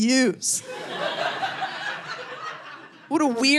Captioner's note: audience laughing